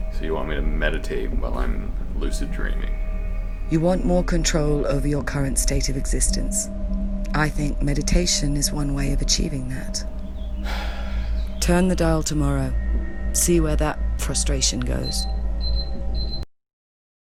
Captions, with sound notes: So you want me to meditate while I'm lucid dreaming? You want more control over your current state of existence I think meditation is one way of achieving that. [sigh] Turn the dial tomorrow see where that frustration goes. [beeping]